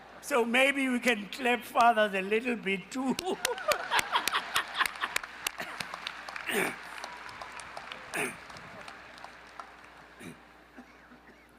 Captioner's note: applause